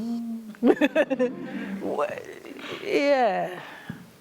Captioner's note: laughter